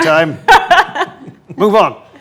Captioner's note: group laughs